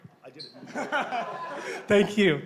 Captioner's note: laughing